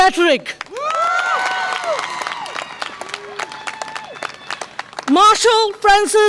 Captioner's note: audience applause and cheer